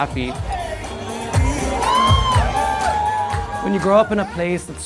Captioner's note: people cheering